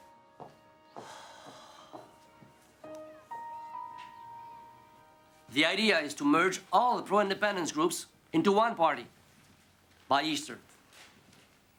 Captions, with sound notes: (Rene sighing) - The idea is to merge all pro independence groups into one party, by Easter.